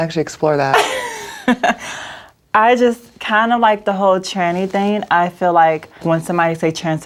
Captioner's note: laughs